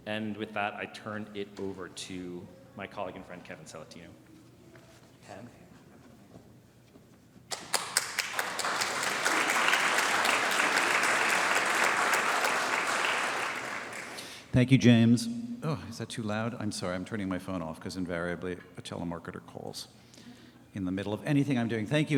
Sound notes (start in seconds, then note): 7.5 audience applauding